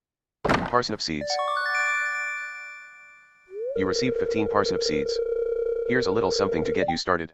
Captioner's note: door opens